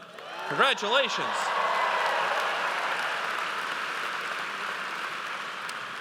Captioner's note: audience cheers